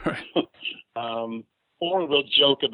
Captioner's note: laughs; laughs